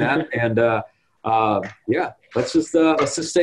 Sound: chuckles

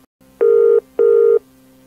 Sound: phone rings

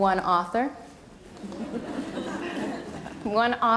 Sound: audience laughter

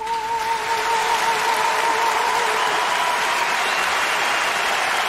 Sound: applause

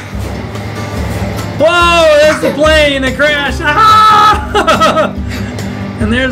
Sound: laughing

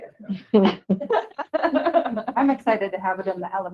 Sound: group laughing

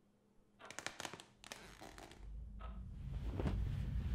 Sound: floorboards creaking again

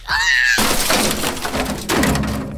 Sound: crash

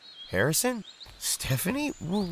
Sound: none

